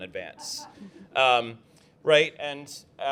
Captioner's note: laughter